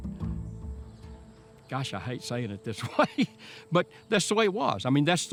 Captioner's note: laughs